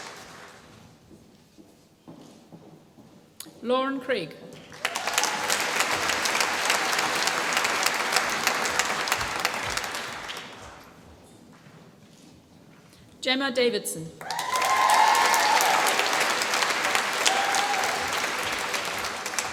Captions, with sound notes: Lauren Craig. (APPLAUSE) Gemma Davidson. (APPLAUSE)